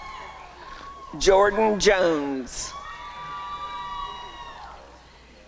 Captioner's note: applause and cheering